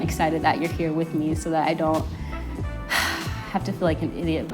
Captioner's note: sighs